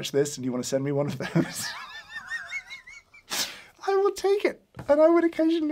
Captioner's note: laughs